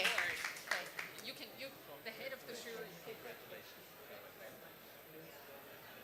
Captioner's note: applause